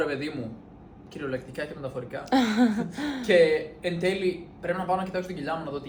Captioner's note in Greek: γέλια